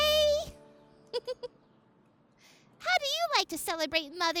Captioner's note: giggles